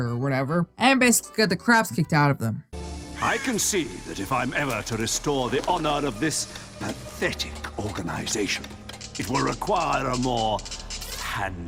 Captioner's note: mocking accent